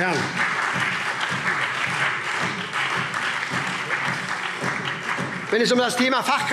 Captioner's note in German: Beifall SPD